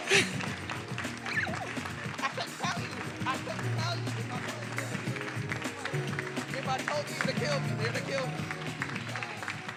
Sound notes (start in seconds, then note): 5.2 speaks faintly; 9.5 attendees applauding